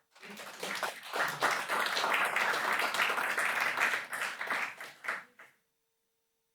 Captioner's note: applause